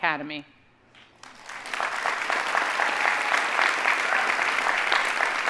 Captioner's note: audience applauding